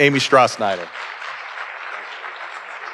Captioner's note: audience applauding